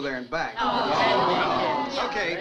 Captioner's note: crowd groans